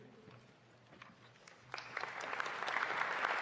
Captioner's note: applause